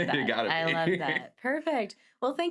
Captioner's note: laughs